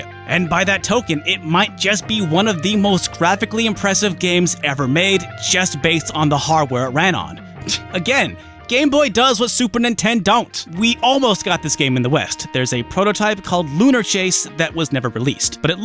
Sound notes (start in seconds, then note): 7.6 scoffs